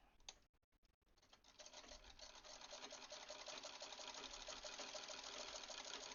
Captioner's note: clacky machine sounds